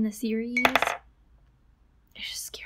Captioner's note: plink